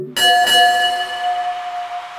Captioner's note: Bell rings